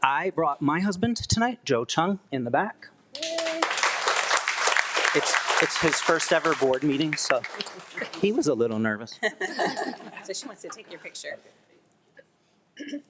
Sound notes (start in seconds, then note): 3.1 attendees clapping; 9.6 attendees chuckling